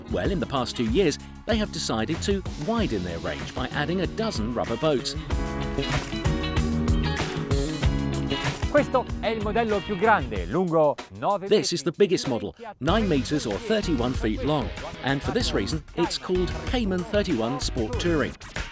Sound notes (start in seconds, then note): 5.7 upbeat music; 8.9 speaking foreign language